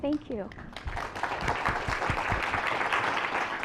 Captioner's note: applause